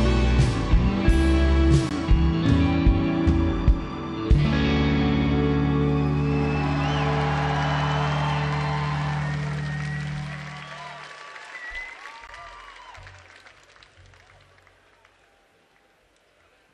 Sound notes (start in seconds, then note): 6.8 audience applauding; 6.8 audience cheering